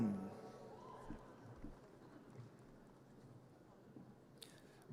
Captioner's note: audience cheers